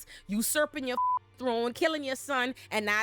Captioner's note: beep